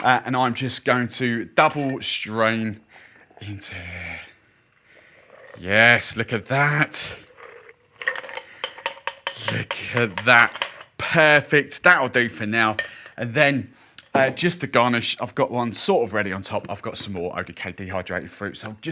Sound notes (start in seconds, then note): 8.0 metal clangs